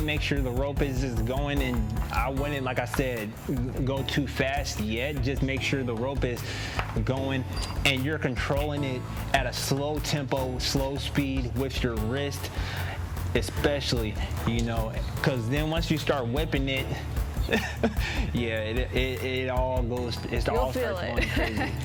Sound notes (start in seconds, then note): 17.4 laughs